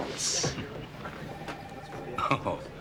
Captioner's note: Joe chuckling